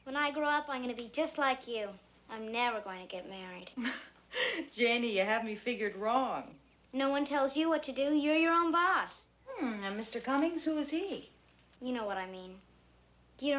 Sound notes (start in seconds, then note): 4.0 laughs